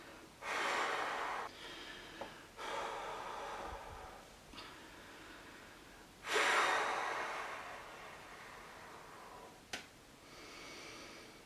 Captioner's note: deep breathing again, ventilation of the sweater - movement of the head